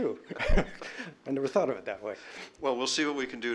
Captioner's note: laughter